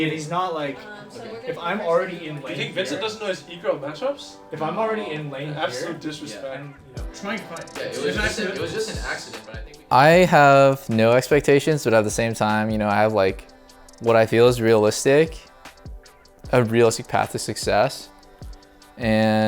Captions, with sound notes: If he's not... If I'm already in- - You think Vincent doesn't know his ego matchups? - If I'm already in lane here- - Absolute disrespect. (teammates chattering) - I have no expectations. But at the same time, I have what I feel is realistic, a realistic path to success.